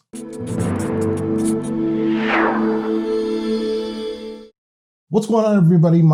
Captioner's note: dramatic music; marker writing